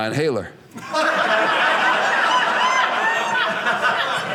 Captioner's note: audience laughing